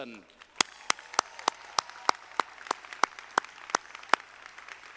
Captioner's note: audience applauding